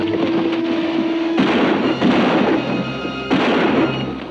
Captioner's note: exciting music; gun bangs